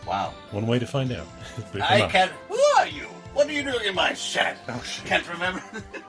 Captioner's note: says quietly